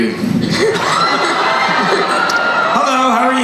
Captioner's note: crowd cheering